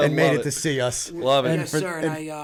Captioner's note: laughter